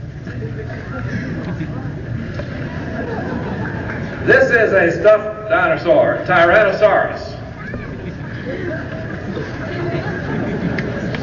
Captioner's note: laughter